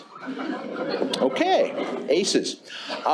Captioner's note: laughter